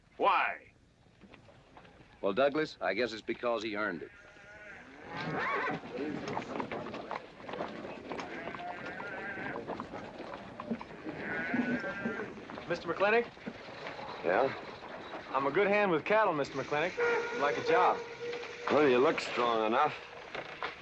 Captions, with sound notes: Why? - Well, Douglas, I guess it's because he earned it. (horse neighing) (men murmuring) - Mr. McLintock? - Yeah. - I'm a good hand with cattle, Mr. McLintock. I'd like a job. - Well, you look strong enough.